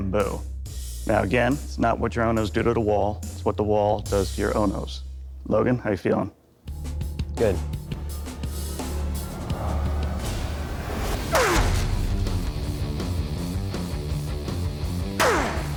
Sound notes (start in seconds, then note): 9.4 grunting